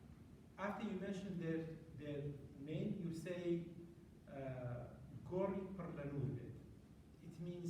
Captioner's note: non-english